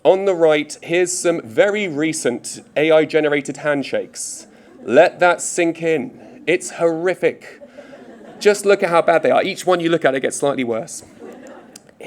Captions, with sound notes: On the right, here's some very recent AI-generated handshakes. Let that sink in, it's horrific. (audience laughing) Just look at how bad they are. Each one you look at it gets slightly worse.